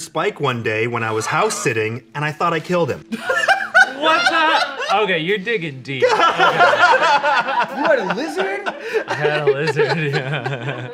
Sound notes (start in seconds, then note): 3.1 laughs; 6.0 everyone laughing